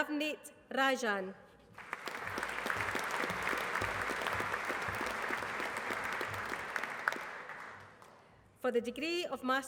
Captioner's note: applause